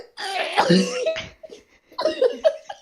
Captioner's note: cOUgh/whEeZe; uncontrollable laughter